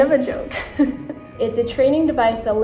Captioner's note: laughing